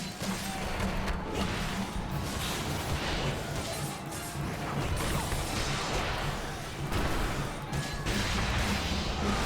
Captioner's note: gunshots